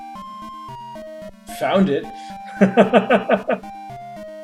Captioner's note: laughs